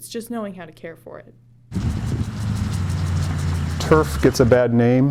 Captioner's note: sound of sprinkler running